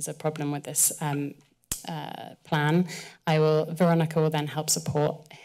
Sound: kisses teeth

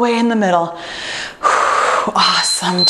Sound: breathes deeply; timer beeps

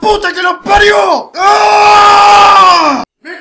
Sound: yelling

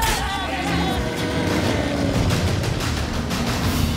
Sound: groan

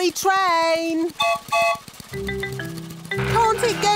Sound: whistle blows

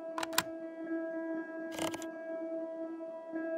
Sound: keys click

